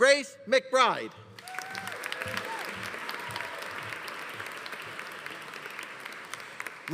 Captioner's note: audience applauding; audience cheering